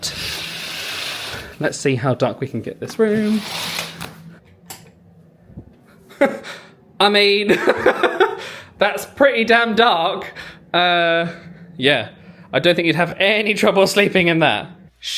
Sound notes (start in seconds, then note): 0.2 curtain clicking; 7.4 laughing